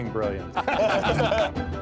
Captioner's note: laughing